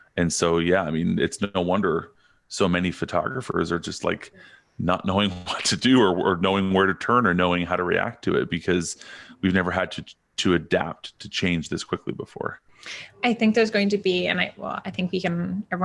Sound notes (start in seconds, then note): 5.1 chuckles